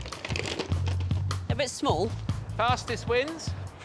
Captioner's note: rummaging